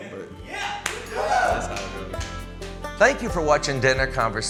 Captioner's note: cheers